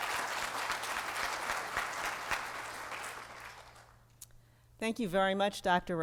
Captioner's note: applause